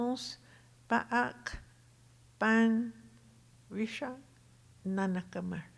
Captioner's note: speaking Tohono O'odham